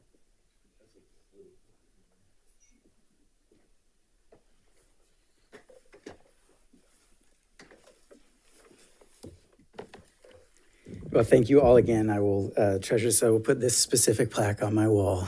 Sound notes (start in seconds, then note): none